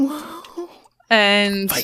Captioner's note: chuckles; vague concerned noises; whispering